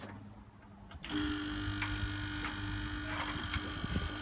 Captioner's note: buzzing